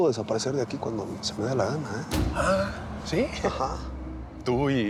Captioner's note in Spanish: none